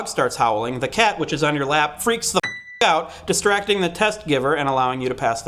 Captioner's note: ding